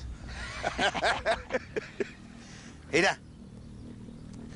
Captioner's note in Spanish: Carcajadas